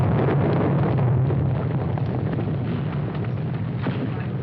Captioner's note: explosions